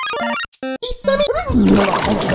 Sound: barfing

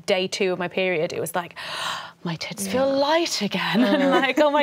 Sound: gasps

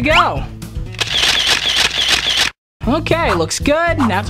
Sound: camera shutter snaps

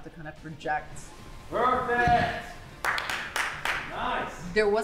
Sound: clapping

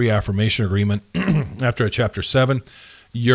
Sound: clearing throat

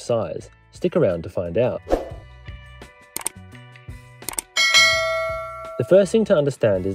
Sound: ship's Bell Ding

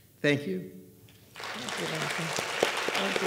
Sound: audience clapping

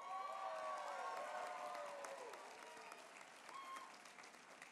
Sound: applause

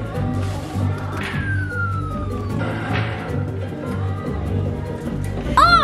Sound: claw machine beeping

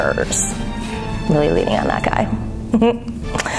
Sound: laugh

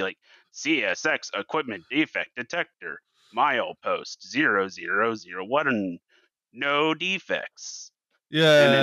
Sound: robotic voice

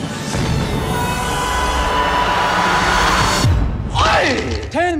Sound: Genie Yawning

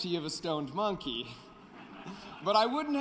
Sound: laughter

